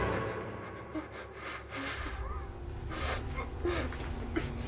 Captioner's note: Jordyn whimpering